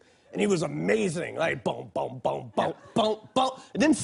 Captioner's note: imitates bass